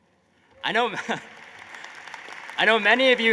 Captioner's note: applause